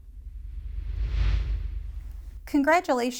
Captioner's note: air whooshing